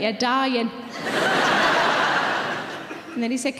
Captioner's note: audience laughing